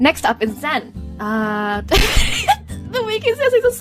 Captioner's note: mic-poppingly loud laugh